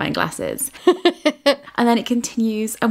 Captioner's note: laughing